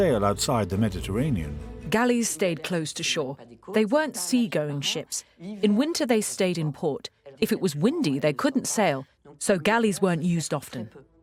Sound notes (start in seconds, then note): 2.0 voiceover